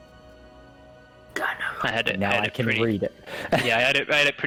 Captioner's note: whispered